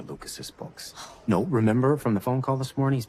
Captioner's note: scoffs